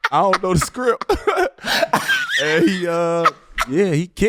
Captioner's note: laughing